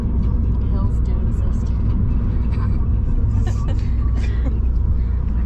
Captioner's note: giggles